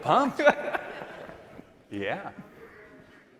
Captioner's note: laughter